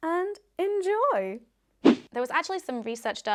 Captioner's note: swishing